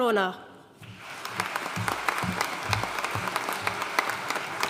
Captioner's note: audience applauding